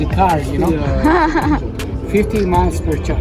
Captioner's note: hahahaha